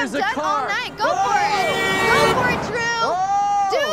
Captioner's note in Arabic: صوت البوق